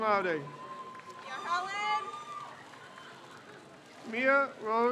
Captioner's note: crowd cheers